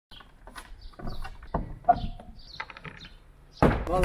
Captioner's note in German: klappern